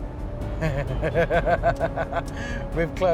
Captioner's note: laughs